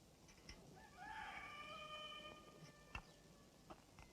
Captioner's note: rooster crowing